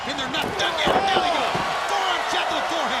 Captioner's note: crowd cheering